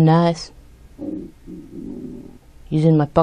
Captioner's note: ominous grunting or growling sound is heard